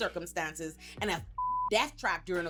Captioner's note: beep